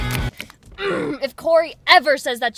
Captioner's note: grunt